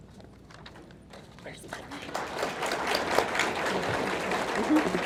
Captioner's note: audience clapping